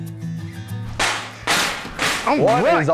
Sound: loud banging

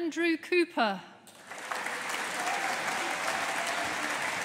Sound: audience applauding

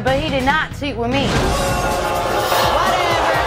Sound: audience booing

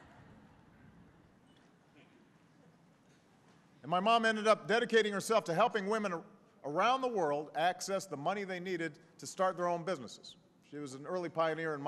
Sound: laughter

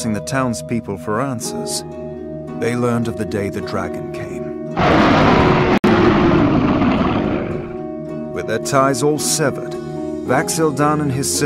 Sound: roar

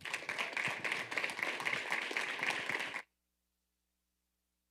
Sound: audience applauding

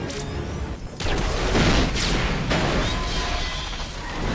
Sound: grenade explodes

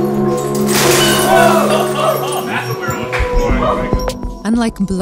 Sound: ethereal music; glass breaking; people laughing and cheering

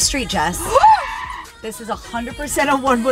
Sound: tires screeching; gasping

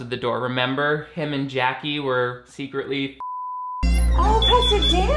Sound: beep

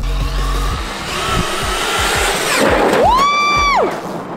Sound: cars buzzing

